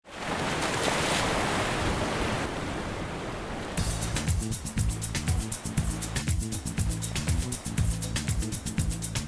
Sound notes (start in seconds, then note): 0.1 waves Crashing on Rocks; 3.8 Latin Music